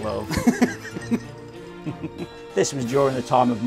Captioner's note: laughs